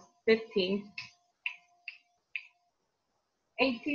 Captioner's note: fingers snapping